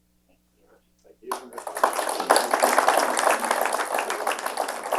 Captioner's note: applause